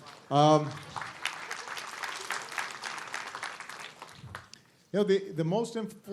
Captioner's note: applause